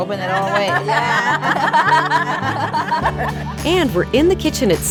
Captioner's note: laughter